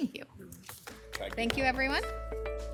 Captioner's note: clapping